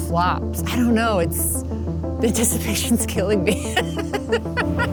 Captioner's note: laughs